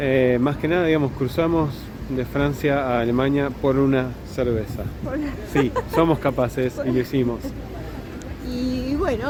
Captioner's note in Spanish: risas